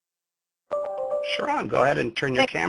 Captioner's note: gentle chiming